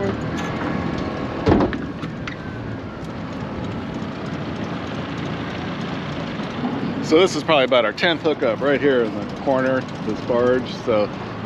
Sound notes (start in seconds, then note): 0.3 boat engine idling; 1.4 thunk